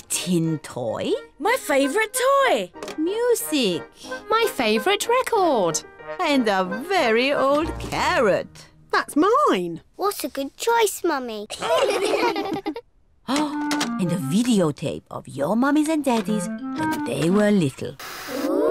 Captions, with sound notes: -A tin toy. -My favorite toy. -Music. -My favorite record. And a very old carrot. -That's mine! -What a good choice, Mummy. (ALL LAUGH) Oh! And a videotape of your mummies and daddies when they were little.